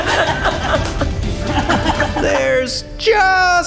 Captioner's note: group laughing; hands slap